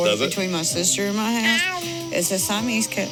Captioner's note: cat meows loudly